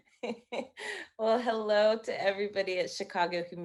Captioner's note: laughing